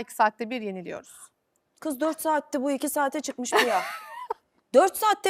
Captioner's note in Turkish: kahkaha